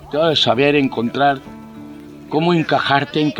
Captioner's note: voice offside